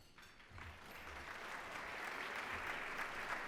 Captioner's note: applause